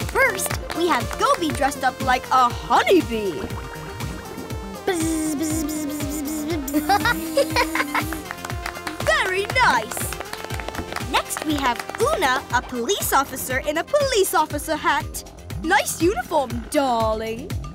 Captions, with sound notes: First, we have Goby dressed up like a honey bee. [buzzing] [laughing] [clapping] Very nice. Next, we have Oona, a police officer in a police officer hat. Nice uniform, darling.